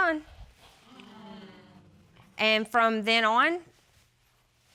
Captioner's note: audience exclaiming